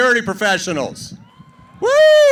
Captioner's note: cheering